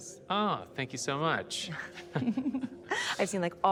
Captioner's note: both chuckle